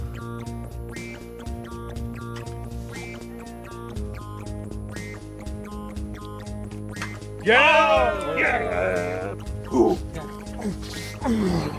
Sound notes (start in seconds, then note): 7.4 Tonys cheering